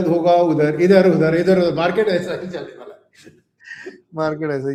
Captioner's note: laughter